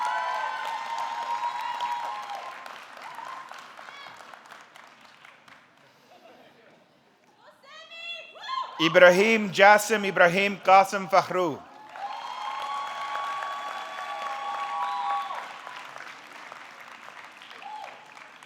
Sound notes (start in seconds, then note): 0.0 audience clapping; 0.2 audience cheering; 12.4 audience cheering; 12.4 audience clapping